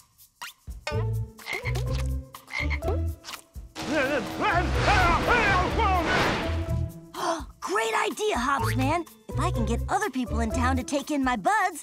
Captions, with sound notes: [ribbitting] [screaming] Great idea, Hops man! If I can get other people in town to take in my buds,